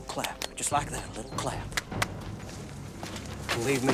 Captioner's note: claps twice; claps twice